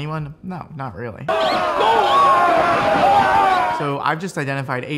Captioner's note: soldiers shouting